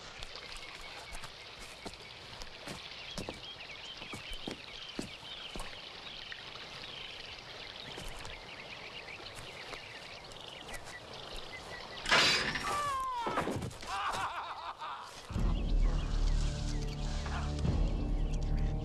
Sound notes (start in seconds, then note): 12.2 trap snaps; 12.7 Carl screams; 15.3 deep menacing music